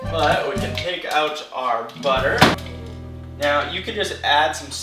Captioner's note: none